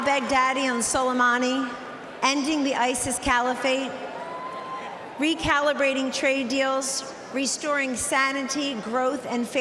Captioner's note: cheering and applause